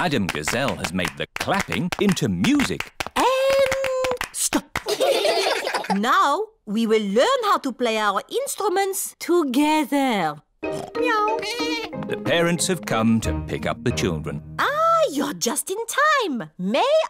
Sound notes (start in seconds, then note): 4.8 all giggling; 10.9 snorts; 11.4 meows; 11.4 bleats